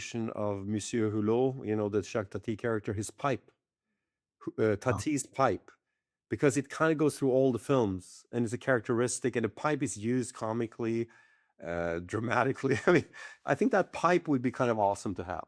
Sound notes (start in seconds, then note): 12.7 chuckles